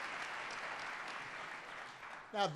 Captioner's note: applause